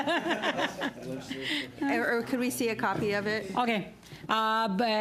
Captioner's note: laughter